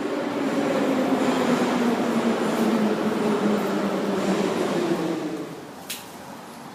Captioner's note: arrival of another train at the station